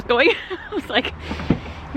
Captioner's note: she laughs